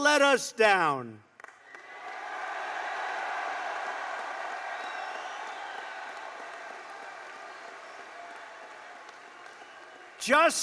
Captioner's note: applause